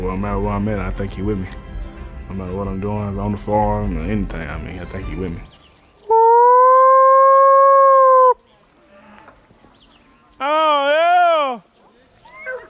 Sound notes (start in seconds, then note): 6.0 howling